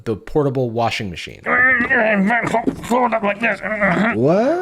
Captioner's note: grunting